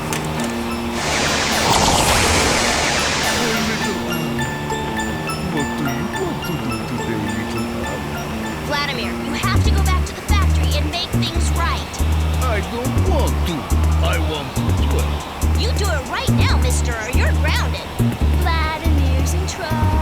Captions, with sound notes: Hey. [delicate music] [zapping] My Little Ann. What do you want to do today, Little Ann? Vladimir, you have to go back to the factory and make things right. I don't want to I want to play. You do it right now, mister, or you're grounded.